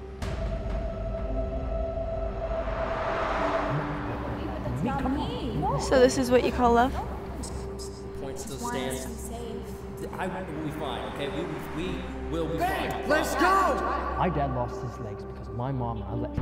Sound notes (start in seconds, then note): 0.1 ominous music; 4.3 couple arguing